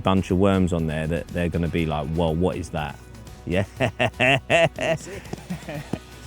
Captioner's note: laughs